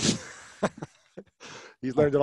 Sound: Lewis laughs

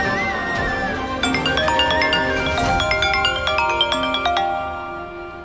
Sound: mobile ringing

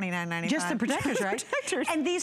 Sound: laughter

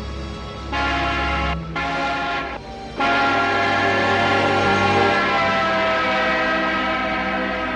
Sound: tense music; horn honks

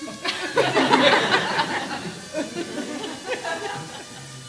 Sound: laughter

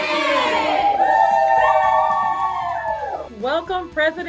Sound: cheering

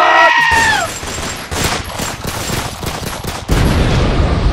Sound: deafening screeches; gunshots and death

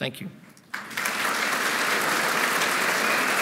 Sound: applause

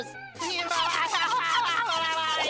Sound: screaming

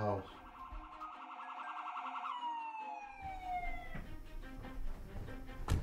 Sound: sirens

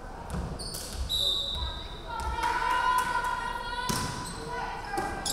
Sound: referee whistling

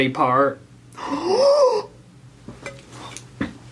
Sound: gasps

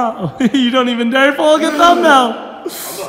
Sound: laughs

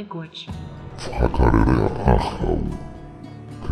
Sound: speaking in maori

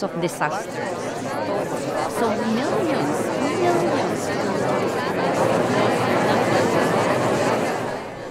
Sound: cacophony of voices

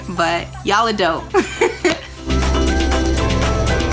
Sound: laughs; upbeat music

